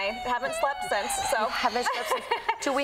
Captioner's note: crying; laughs